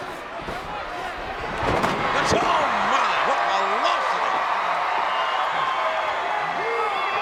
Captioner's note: crowd cheering